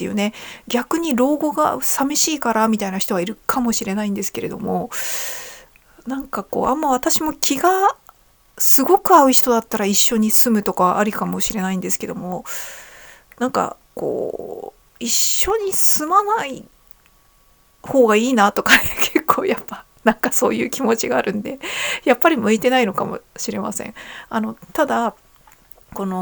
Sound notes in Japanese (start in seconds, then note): 18.7 笑い